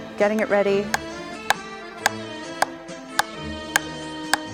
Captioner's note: hammer thwacks